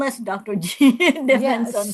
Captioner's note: laughs